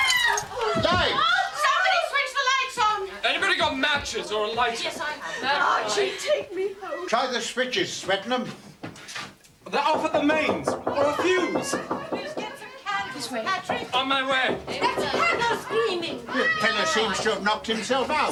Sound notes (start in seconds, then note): 9.8 knocking on door